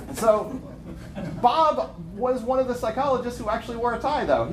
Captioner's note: laughter